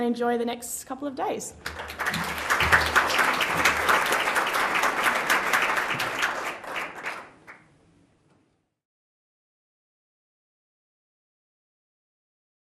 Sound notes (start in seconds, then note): 1.6 audience clapping